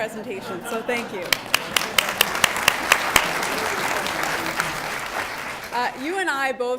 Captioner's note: audience clapping